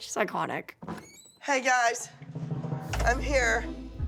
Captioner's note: door opens